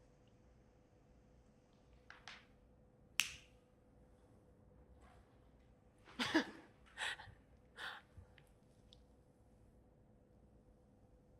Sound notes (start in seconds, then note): 3.2 snaps; 6.2 laughs